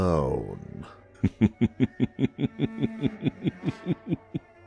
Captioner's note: maniacal snickering